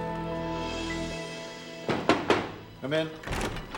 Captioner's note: knocking